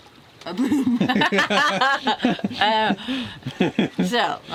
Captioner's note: laughs